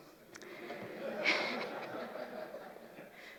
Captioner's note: laughter